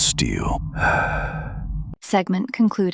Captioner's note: sighs